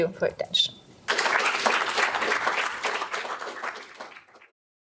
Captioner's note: audience clapping